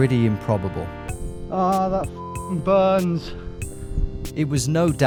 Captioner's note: beep